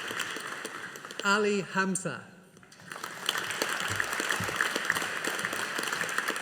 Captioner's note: audience applauding